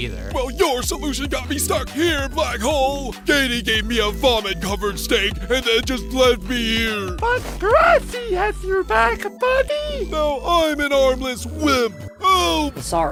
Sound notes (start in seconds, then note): 3.6 narrating